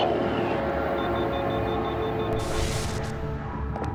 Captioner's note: machine beeping